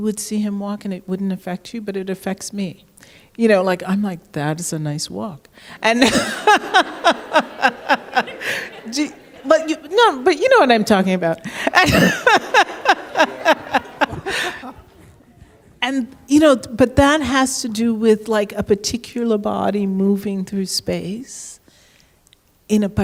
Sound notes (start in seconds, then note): 5.8 laughs